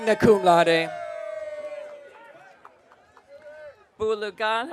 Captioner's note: audience cheering